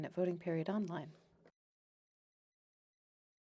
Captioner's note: speaking French